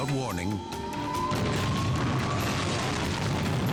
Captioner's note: gas tanks exploding; sirens wailing